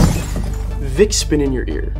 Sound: box crashes

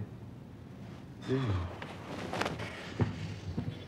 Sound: heavy sigh

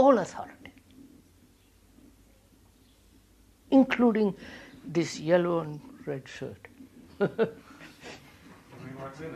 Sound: laughs

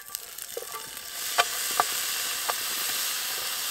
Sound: bacon sizzling

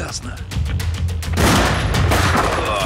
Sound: gunshots

